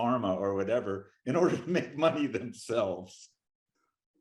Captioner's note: laughing